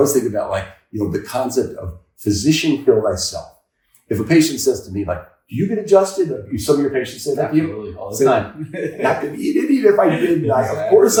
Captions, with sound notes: I always think about like, you know, the concept of physician care thyself. If a patient says to me like, "Do you get adjusted?" Some of your patients say that to you. - Absolutely. All the time. (chuckles) - I could eat it even if I didn't.